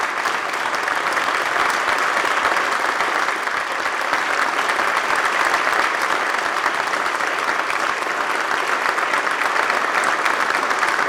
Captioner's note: applause